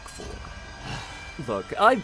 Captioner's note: sighs